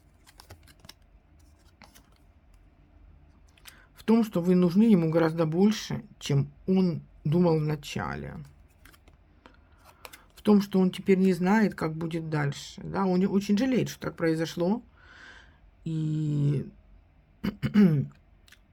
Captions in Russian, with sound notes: в том, что вы нужны ему гораздо больше, чем он думал в начале, в том, что он теперь не знает, как будет дальше. Да, он очень жалеет, что так произошло, и, [откашливается]